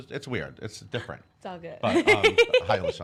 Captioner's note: laughs